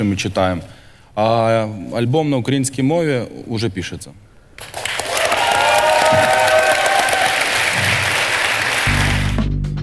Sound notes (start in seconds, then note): 4.8 the audience cheers